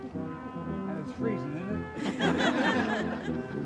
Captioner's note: laughter